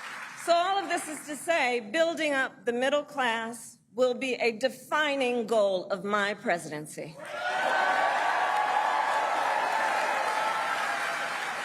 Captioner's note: applause